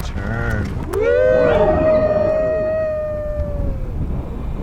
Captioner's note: all cheering; wind howling